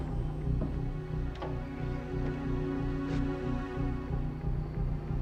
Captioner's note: door clicks and creaks